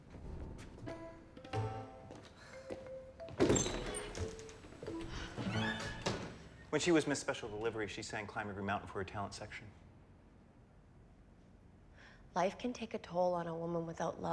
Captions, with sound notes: [SIGHING] [DOORS SWINGING SHUT] WHEN SHE WAS "MISS SPECIAL DELIVERY," SHE SANG "CLIMB EVERY MOUNTAIN" FOR HER TALENT SECTION. LIFE CAN TAKE A TOLL ON A WOMAN WITHOUT LOVE, NORMAN.